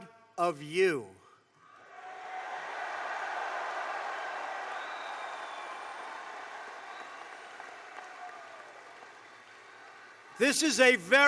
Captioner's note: applause